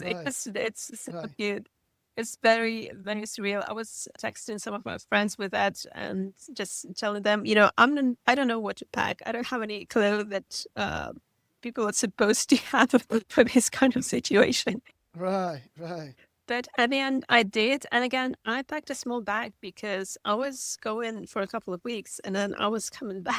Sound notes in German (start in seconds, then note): 15.8 lacht